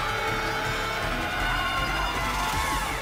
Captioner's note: crowd cheering